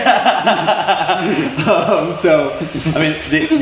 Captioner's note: they laugh